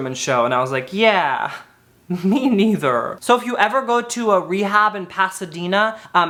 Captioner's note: chuckles